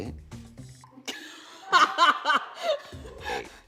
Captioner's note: laughter